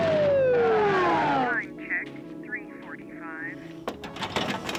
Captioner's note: siren; radio chatter